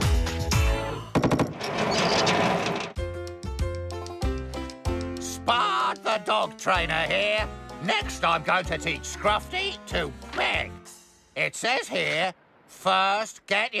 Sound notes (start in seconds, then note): 1.5 rollers Rattle